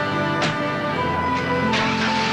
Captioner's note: car engine starts